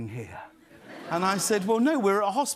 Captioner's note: laughter